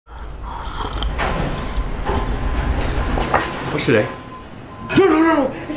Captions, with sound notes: [BEEPING] What's today? No, no, no!